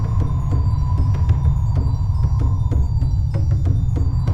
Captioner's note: volcano rumbling